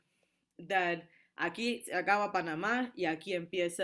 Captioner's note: speaking spanish